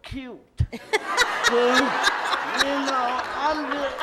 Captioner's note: loud laughter